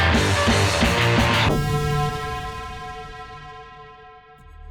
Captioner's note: droning